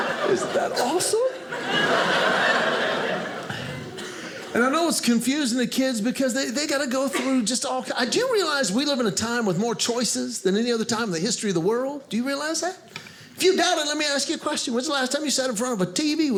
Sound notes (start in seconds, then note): 1.6 audience laughing